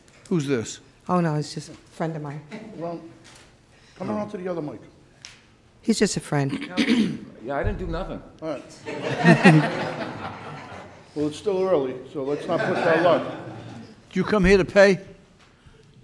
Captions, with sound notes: Who's this? Oh no, it's just a friend of mine. Put him on to the other mic. He's just a friend. Yeah I didn't do nothing. (crowd laughs) Well it's still early, so let's not push our luck. Did you come here to pay?